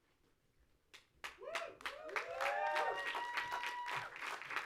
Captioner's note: audience cheers